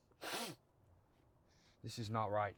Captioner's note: Milton sniffles